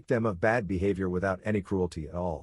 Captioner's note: Arabic